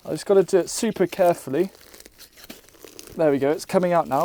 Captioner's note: plant roots releasing from soil